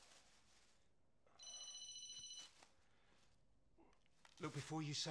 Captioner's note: phone rings